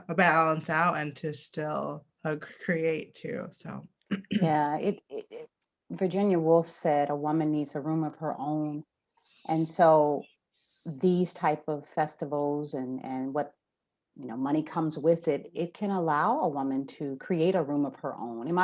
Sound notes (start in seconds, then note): none